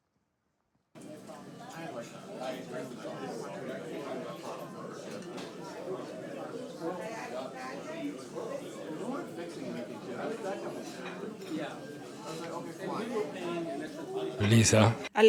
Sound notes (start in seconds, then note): 1.7 restaurant noises; 11.7 restaurant noises